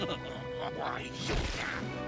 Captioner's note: laughs